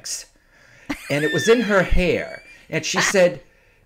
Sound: laughing

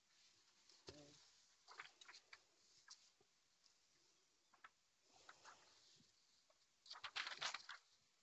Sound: long pause

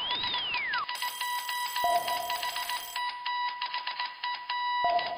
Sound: sonar ping; old phone ringing

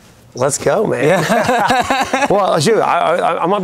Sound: laughing loudly

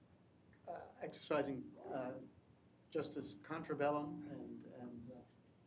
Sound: speaking foreign language

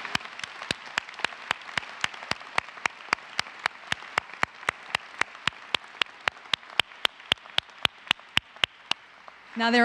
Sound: applause

